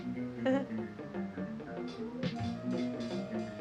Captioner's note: Cindy chuckles; chaotic music